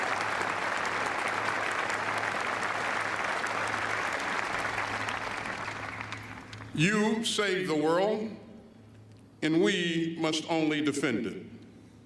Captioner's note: applause